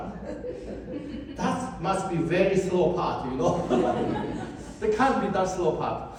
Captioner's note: audience laughs